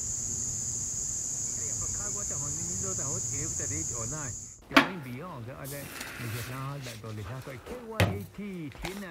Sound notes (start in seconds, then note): 1.8 radio announcer speaking